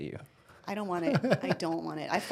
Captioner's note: laughing